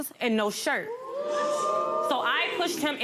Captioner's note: audience wooing